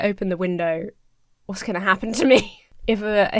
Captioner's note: laughs nervously